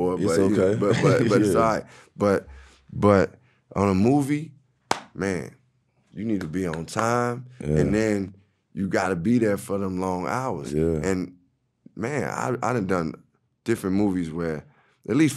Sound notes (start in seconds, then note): 6.2 claps hands